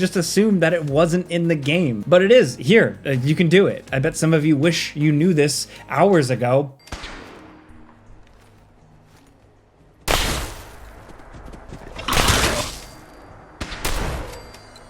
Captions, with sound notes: just assumed that it wasn't in the game, but it is, here you can do it. I bet some of you wish you knew this hours ago. (tranquil ambient music) (gunshot fires) (loud thumping)